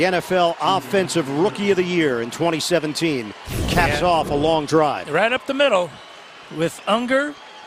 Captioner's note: cheers and applause